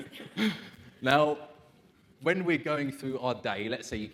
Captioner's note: laughs